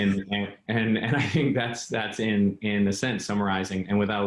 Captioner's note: laughs